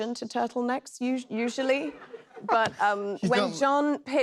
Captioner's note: laughter